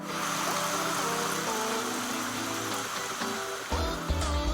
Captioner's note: water spraying